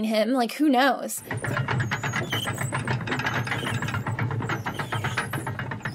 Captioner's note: drawbridge clunking